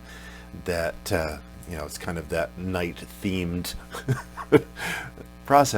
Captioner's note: laughs